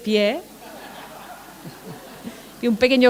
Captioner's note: laughter